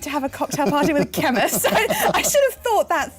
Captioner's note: laughter